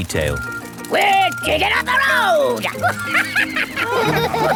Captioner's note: chuckles